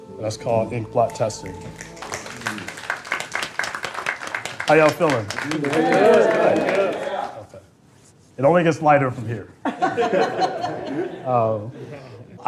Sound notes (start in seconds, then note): 3.1 applause; 9.6 laughter